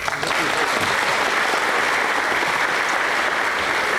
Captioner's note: applause